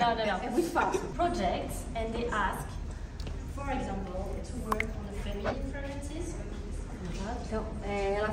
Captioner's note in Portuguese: risos; falas em inglês